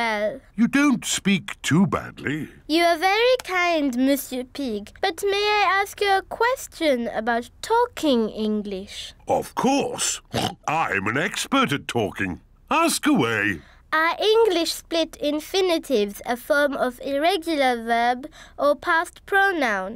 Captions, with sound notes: You don't speak too badly. You are very kind, Monsieur Pig, but may I ask you a question about talking English? Of course. (OINKS) I am an expert at talking. Ask away. Are English split infinitives a form of irregular verb or past pronoun?